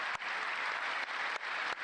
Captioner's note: applause